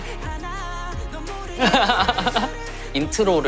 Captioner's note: hahaha